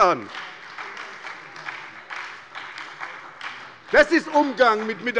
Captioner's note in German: Beifall bei der SPD